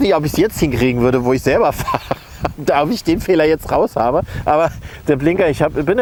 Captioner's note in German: lacht